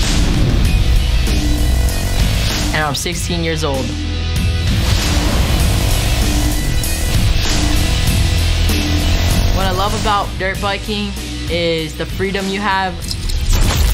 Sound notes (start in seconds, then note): 0.2 nat sound motorcylcel acceleration and music; 4.6 sfx rocket blast, natural sound, motorcycle acceleration, and music